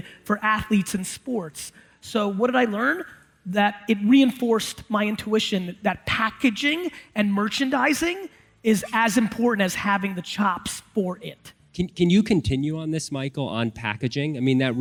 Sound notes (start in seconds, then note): none